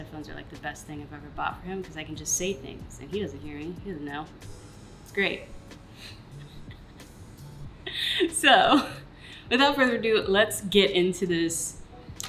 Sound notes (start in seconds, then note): 6.0 laughs